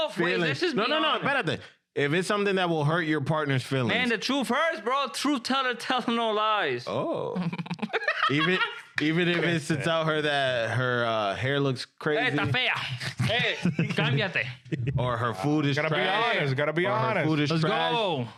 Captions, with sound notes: No, no, no, better than, if it's something that will hurt your partner's feelings. Man, the truth hurts, bro. Truth teller tells no lies. Oh. (Laughing) Even if it's to tell her that her hair looks crazy. (Speaking In Foreign Language) Or her food is trash. Gotta be honest, gotta be honest. Let's go.